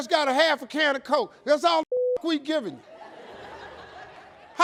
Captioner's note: beep; audience laughing